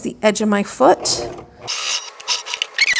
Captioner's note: sewing machine whirring; video fast-forward trilling